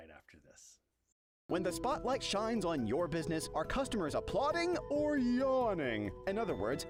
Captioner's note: voiceover